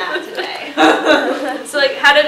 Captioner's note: laughs